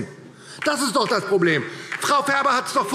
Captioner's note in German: Beifall DIE LINKE